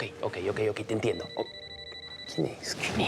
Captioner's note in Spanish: suena el celular